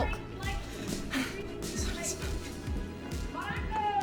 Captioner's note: sighs; woman shouting over TV